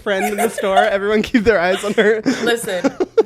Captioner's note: laughs